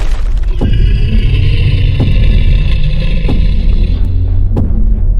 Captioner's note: dinosaur grunting